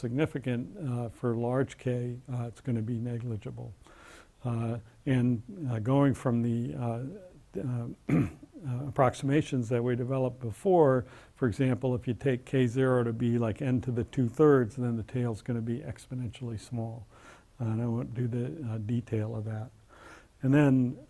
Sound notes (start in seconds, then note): 8.0 cough